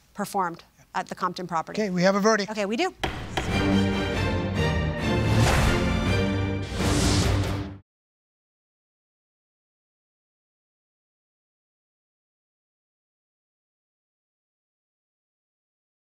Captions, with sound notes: - performed at the Compton property. - Okay. We have a verdict! - Okay, we do! (gavel thuds) (dramatic theme music)